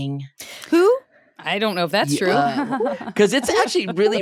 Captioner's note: laughs